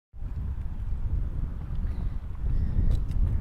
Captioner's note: wind blowing